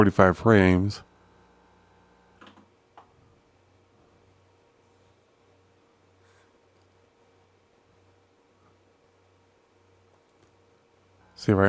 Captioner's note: silence